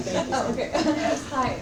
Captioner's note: laughter